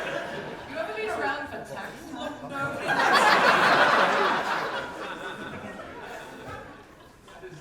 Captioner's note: audience laughter